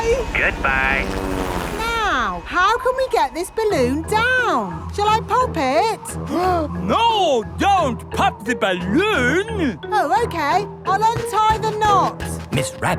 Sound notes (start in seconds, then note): 6.8 gasps